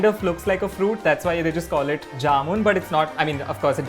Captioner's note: Hindi